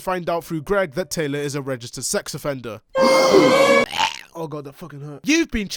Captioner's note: audience gasps